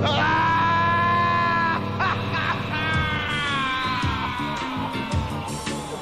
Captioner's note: screaming